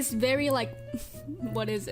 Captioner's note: confused chuckle